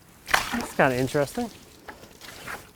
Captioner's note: water sloshes